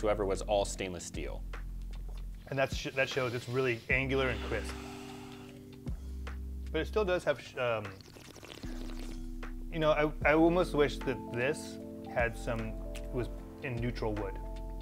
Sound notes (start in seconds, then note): 7.8 gurgling